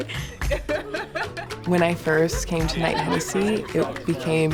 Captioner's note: laughing